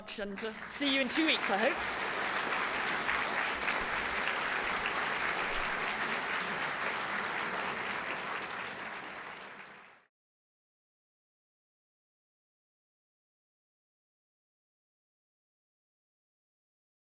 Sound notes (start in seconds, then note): 2.3 applause